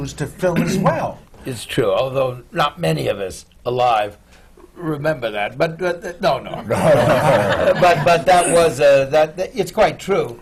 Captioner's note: laughter